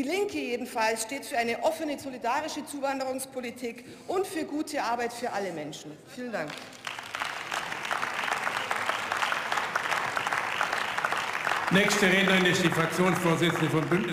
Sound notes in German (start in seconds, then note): 6.4 Beifall